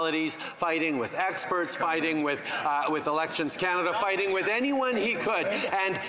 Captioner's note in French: voix de l'interprète